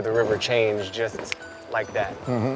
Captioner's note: snaps fingers